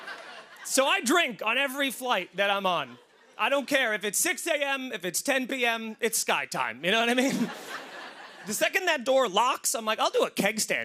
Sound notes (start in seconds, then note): 0.0 laughter; 7.1 laughter